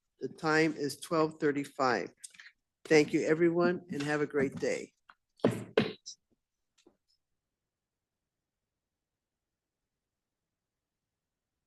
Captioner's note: gavel sounds to conclude the meeting